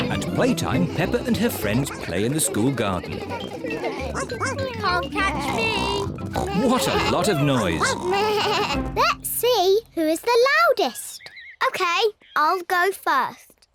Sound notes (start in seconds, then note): 4.3 barks